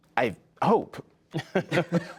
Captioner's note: laughter